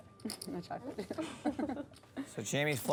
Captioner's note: laughs